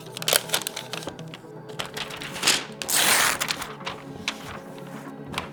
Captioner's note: plastic crinkling